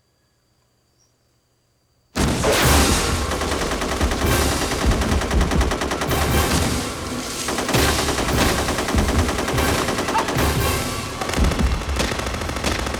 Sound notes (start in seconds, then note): 1.8 explosion; 2.2 automatic Weapons Fire; 10.9 pistol Shots